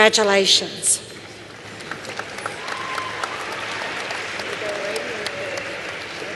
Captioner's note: applause